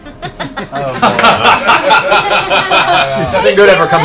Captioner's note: laughter